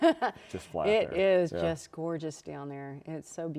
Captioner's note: laughs